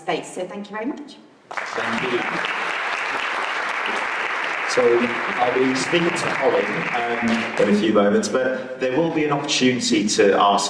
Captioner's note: applause